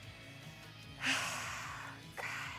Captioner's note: sigh